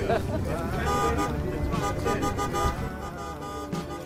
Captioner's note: sounds of honking horns